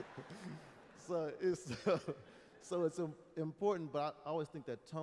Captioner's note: laughter; laughs